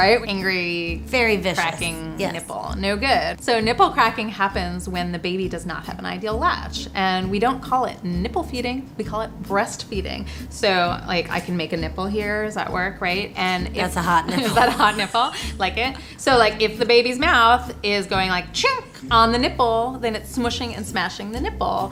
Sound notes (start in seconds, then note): 14.2 laughs